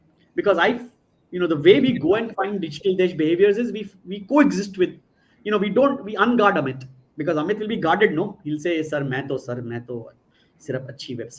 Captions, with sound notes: Because the way we go and find digital behaviors is we co-exist with-- we're on guard, Amit. Because, Amit, we'll be guarded, no? You'll say, [NON-ENGLISH SPEECH]